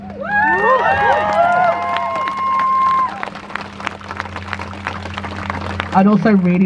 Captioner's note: crowd cheers